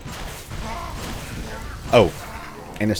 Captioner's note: Master Blaster fwoooshing